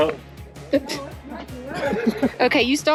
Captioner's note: laughing